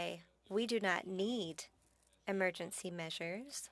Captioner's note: speaking French